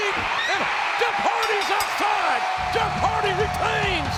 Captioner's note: bell rings